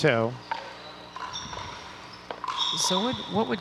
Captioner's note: ball bouncing